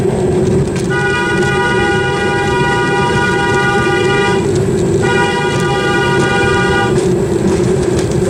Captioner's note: more Motorcar Tootular Noises